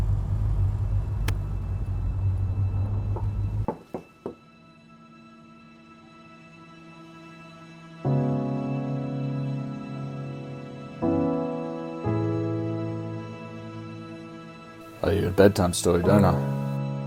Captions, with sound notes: (gentle music) (knocking at the door) I owe you a bedtime story, don't I?